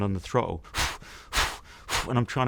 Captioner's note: man panting